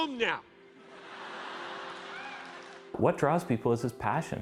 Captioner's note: platéia rindo